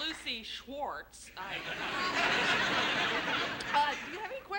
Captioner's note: laughter